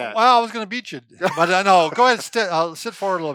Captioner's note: laughs